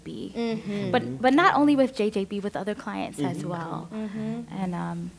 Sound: others agreeing

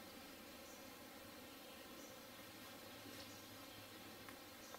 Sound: faint bird chirping

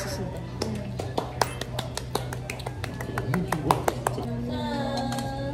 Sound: applause

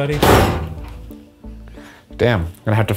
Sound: metal cover thuds

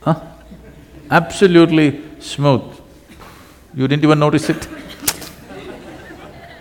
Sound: laughter

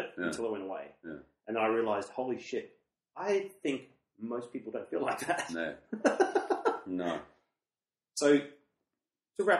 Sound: laughs

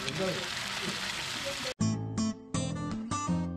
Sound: sizzling

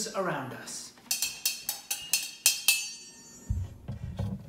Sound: metal clanking

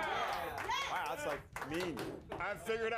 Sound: scattered cheers

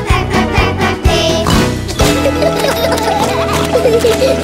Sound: singing; oink; laughter

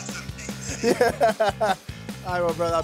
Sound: laughs

